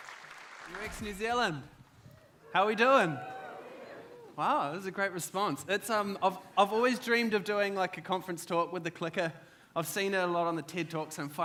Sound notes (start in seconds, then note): 2.4 audience cheers